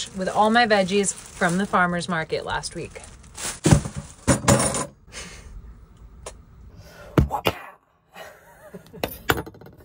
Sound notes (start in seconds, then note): 3.4 veggies banging; 8.2 laughing